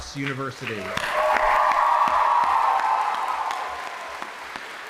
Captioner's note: audience applauding